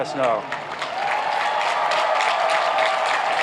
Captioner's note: applauding